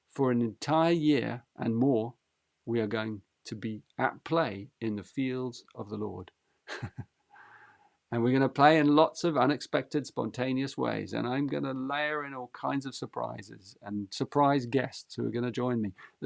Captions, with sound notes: For an entire year and more, we are going to be at play in the fields of the Lord. [laughs] And we're going to play in lots of unexpected, spontaneous ways. And I'm going to layer in all kinds of surprises and surprise guests who are going to join me.